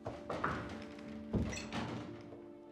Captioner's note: knocks; door closes